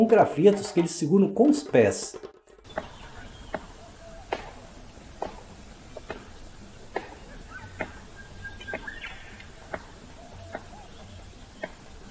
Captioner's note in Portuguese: Som das batidas da cacatua com o graveto